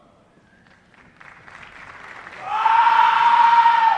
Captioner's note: applause